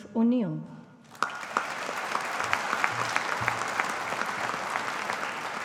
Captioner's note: audience applauding